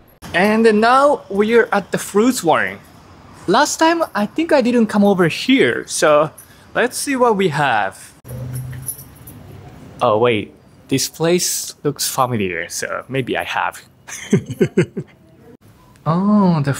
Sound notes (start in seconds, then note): 14.1 laughs